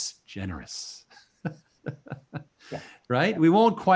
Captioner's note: laughing